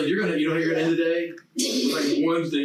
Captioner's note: group chattering